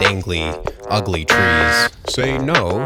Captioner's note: buzzer buzzing